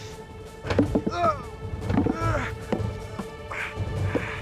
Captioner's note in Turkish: Taş düşme sesi